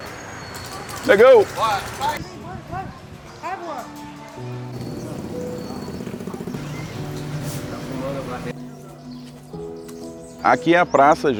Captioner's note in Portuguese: sons da rua